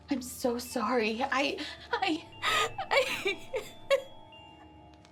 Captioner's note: cries